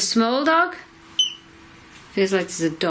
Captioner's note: beep